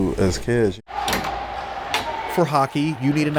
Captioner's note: gate opens